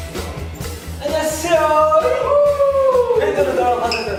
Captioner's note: cheers